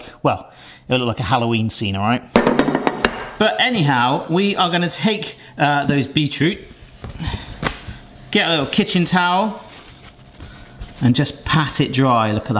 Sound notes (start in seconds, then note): none